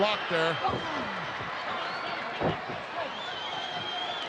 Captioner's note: crowd yelling